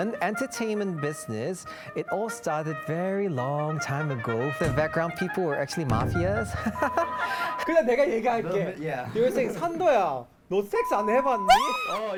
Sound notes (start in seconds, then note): 6.6 fake laugh